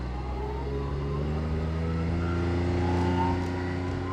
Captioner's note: ATV sound